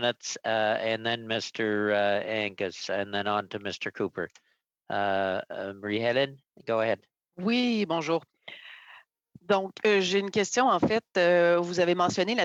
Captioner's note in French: voix de l'interprète